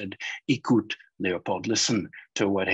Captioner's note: speaking in foreign language